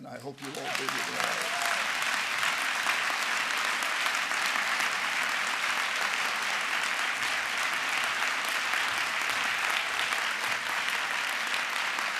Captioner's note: applause